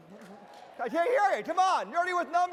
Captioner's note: audience applauding